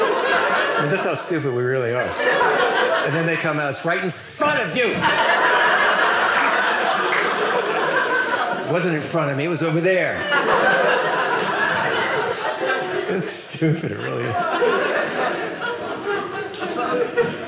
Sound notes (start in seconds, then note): 0.0 audience laughing; 4.3 audience laughing